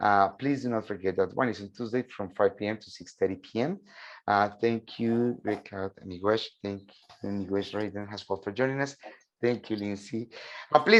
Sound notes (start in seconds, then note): 5.4 speaking in a foreign language; 7.8 speaking in a indigenous language